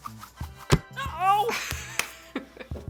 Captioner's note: clunking; laughs